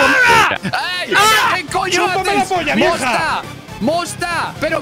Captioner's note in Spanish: gritan